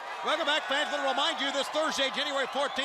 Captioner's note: crowd cheering